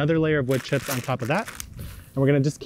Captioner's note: bag crinkling